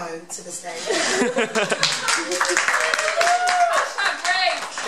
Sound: applause

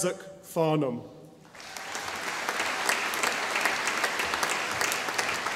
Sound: audience applauding

